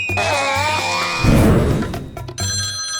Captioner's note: screams; whoosh; phone rings